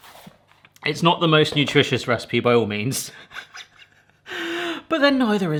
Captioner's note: laughs